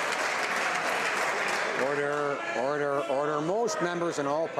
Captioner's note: some Applause